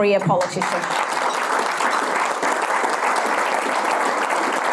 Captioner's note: audience applause